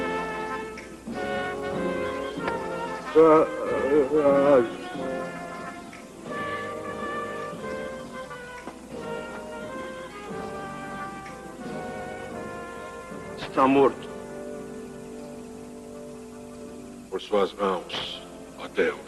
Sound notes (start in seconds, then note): 2.0 muttering; 4.2 sighs